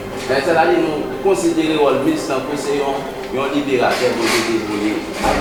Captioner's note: speaking in foreign language